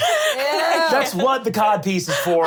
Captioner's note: laughing